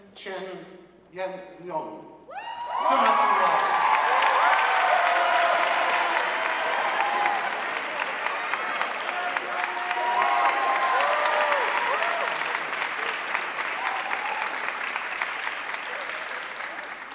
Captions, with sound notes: Kevin Chen Yanlong, summa cum laude. (audience cheering and applauding)